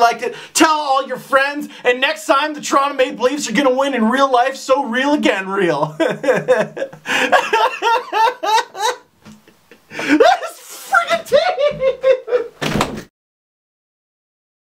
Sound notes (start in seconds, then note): 5.5 laughs; 9.6 sobs